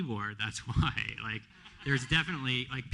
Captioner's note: laughter